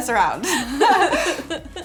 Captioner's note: laughs